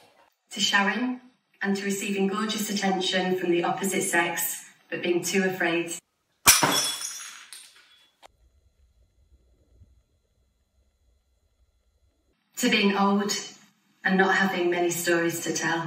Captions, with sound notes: To Sharon and to receiving gorgeous attention from the opposite sex but being too afraid. [ GLASS SMASHES ] To being old and not having many stories to tell.